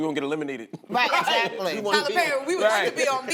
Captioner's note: laughter